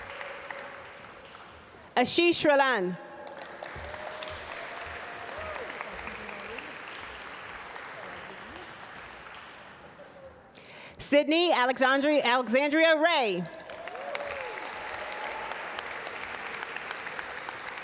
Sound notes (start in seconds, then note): 3.2 audience applaud; 13.6 audience applaud